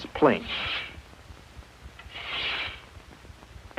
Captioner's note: planing noises